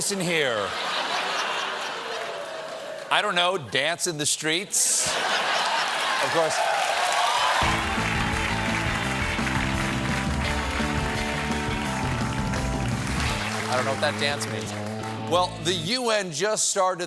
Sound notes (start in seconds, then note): 4.9 laughter; 7.9 cheers and applause